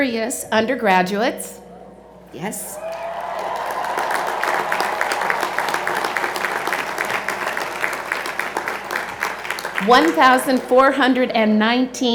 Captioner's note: cheers and Applause